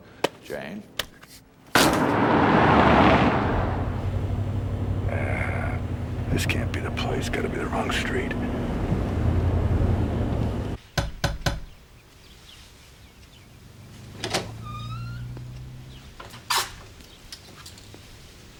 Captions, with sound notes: Jane? [thud] [car engine roars] Aaa-- this can't be the place. Gotta be the wrong street. [door squeaks open]